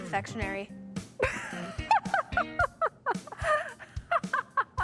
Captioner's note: Madison laughing